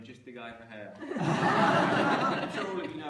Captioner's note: laughter